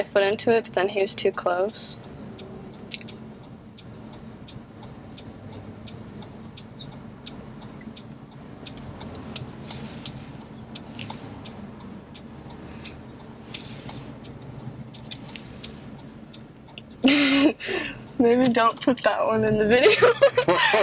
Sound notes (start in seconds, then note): 2.8 turn signals clicking; 10.1 turn signals clicking continues; 19.8 laughs